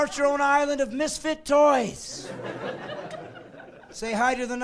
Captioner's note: laughing